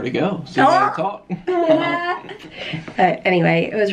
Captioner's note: both laughing